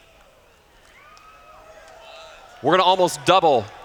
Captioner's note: cheers